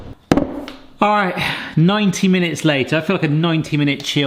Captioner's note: fridge slams; sighs